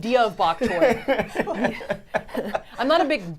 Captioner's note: all laughing